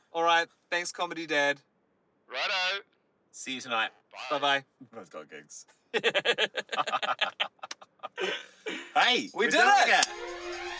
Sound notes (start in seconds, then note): 5.9 chuckles; 6.0 laughing